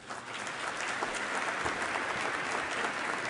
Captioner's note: applause